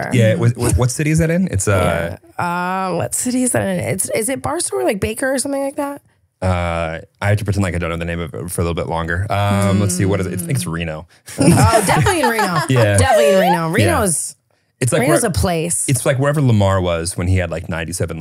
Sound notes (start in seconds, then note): 11.4 laughing